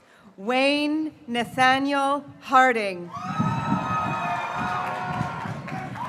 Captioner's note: graduates cheering